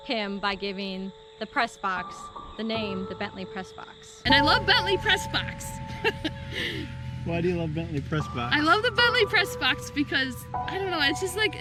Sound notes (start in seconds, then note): 5.8 laughs